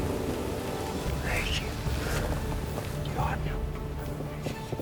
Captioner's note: whispering